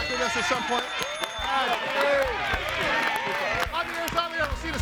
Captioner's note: audience applauding